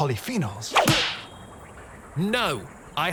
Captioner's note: smacks